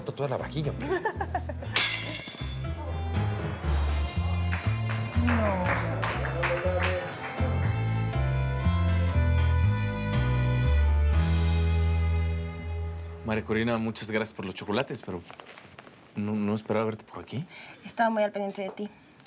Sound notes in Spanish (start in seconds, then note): 0.8 Risas; 1.8 Platos caen al piso; 6.6 Aplausos